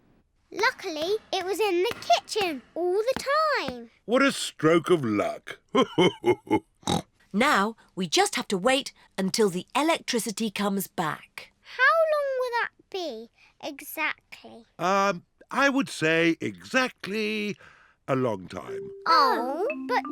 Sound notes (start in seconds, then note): 5.2 laughs; 6.8 snorts